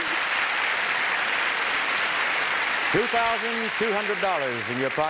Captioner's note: applause